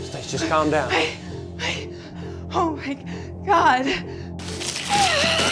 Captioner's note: breathing heavily; rustling and shrieking